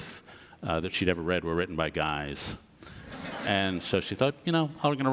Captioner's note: audience laughs